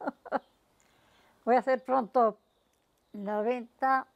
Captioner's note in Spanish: ríe